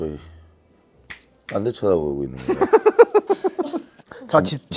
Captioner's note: haha